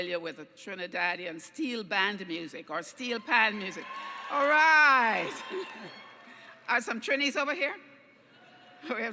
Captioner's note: cheering